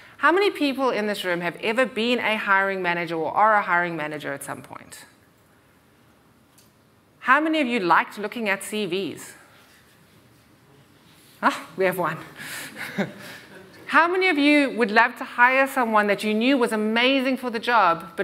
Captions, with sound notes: How many people in this room have ever been a hiring manager or are a hiring manager at some point? How many of you liked looking at CVs? We have one. [chuckles] How many of you would love to hire someone that you knew was amazing for the job